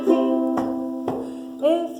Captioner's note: stomping